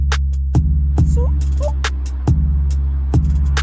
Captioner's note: cat calling